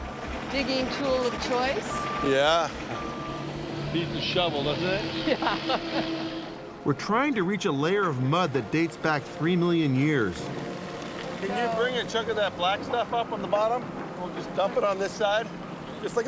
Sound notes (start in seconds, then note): 5.0 laughing